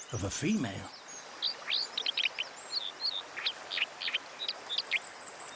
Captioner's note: elaborate chirping